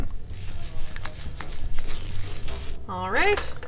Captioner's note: pancake sizzling